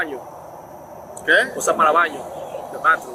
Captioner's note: speaking in Spanish